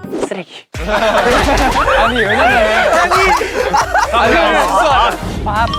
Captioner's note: laughter